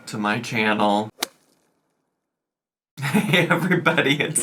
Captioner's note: logo thuds